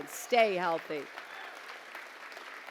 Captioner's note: applause